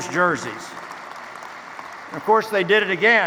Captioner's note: clapping